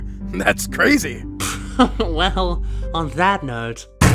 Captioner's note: laughs